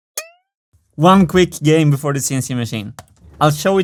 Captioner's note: boing; mouse click